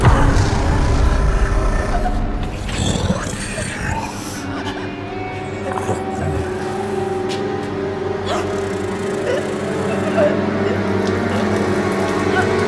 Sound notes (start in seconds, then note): 2.6 choking